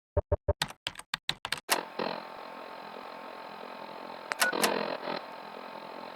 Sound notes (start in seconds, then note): 0.6 sound of typing and film reel running